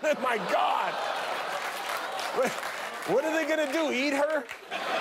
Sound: laughter

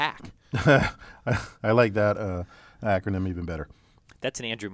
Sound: laugh

